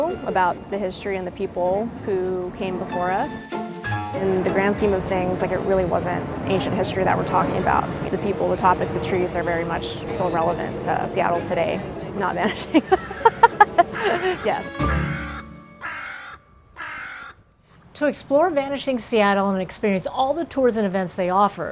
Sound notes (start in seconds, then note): 12.4 laughs; 16.6 crows cawing